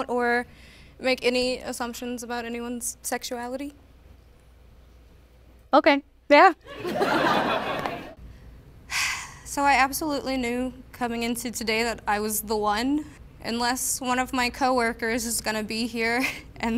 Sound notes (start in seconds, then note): 6.7 crowd laughing; 8.8 sighing